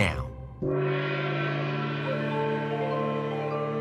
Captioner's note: gong struck